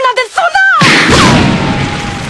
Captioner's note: вam!